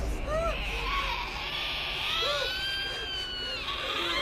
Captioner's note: Abigail screeching